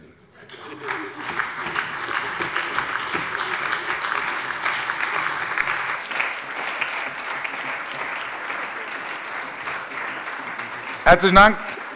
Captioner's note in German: Allgemeiner Beifall